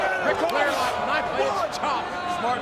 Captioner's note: audience cheers; wrestlers scream